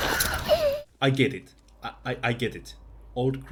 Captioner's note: hurt sounds